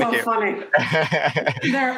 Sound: laughing

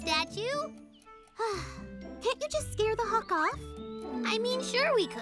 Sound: sighs

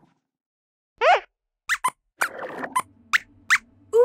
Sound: squeaks squeaks

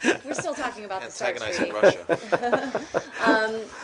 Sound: laughter

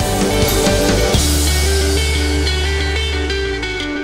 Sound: jet engine roaring

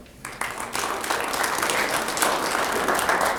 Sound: applause

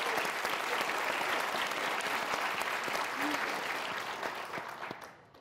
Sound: applause

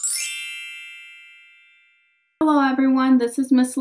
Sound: chimes

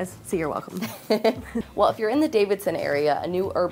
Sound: laugh

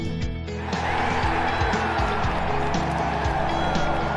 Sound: cheering

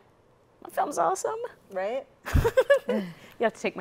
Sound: chuckles

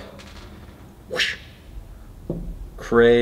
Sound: whooshing sound

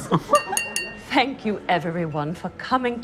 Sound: laughter; taps glass

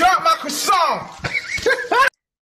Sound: laughs

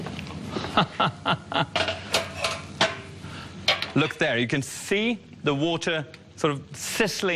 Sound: laughs

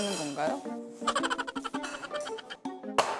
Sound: haha

